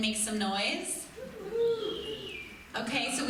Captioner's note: few people cheers